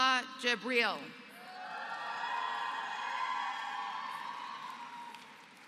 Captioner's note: applause